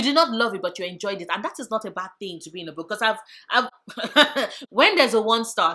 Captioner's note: laughs